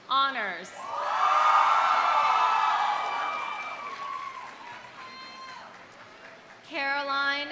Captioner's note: audience cheering; audience applauding